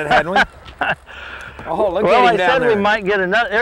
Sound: laughter

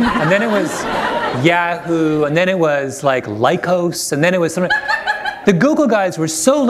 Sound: laughter

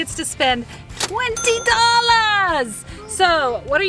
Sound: cash register opening

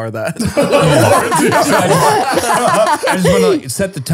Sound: all laughing

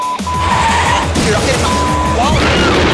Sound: engine revving; beep

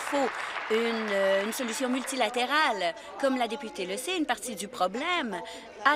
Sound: applause

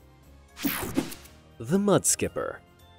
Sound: logo snaps

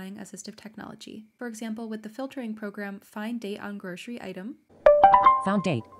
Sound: app speaking

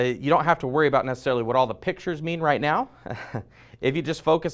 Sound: chuckles

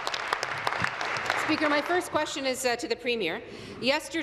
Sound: applause

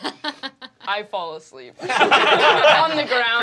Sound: group laughing

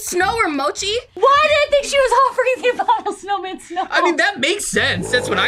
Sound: laughs

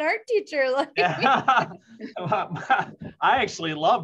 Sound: laughter

